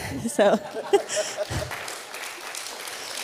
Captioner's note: applause